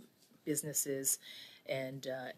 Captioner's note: speaking English